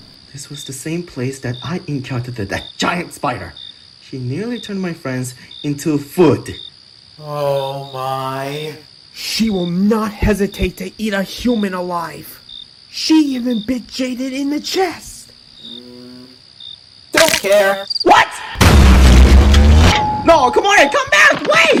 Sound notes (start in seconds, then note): 8.0 scared